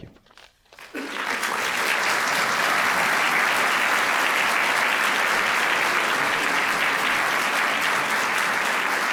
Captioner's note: applause